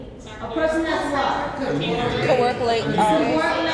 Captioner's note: crowd talks over each other